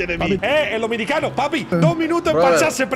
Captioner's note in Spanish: acento dominicano